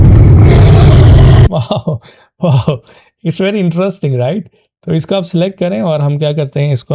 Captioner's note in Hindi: हंसी